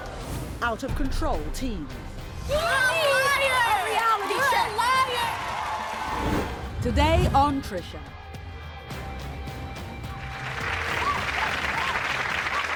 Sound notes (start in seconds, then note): 5.5 cheering; 10.0 applause